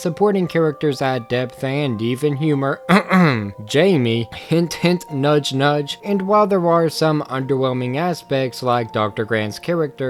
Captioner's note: clears Throat